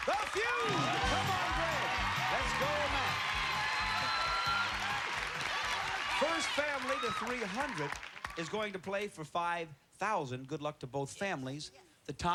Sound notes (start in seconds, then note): 3.7 cheers and applause